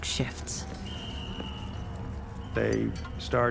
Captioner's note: whistling, people shouting